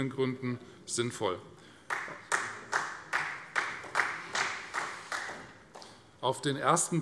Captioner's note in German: Beifall Freie Demokraten